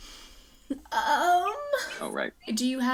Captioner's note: giggles